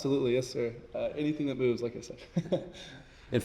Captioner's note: chuckles